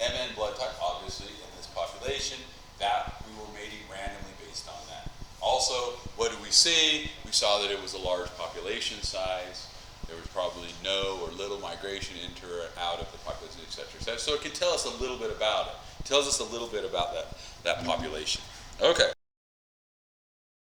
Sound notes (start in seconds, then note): 18.4 mic cuts out